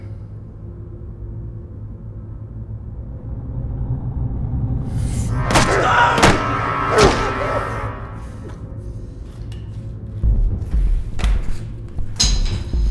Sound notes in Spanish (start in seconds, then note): 4.6 música intensa; 5.9 gritando